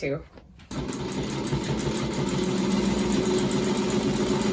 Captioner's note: sewing machine whirring